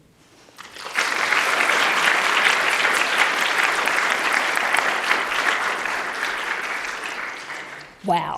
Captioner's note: applause